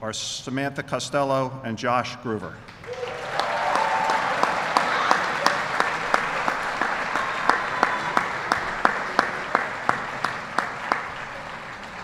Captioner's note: applause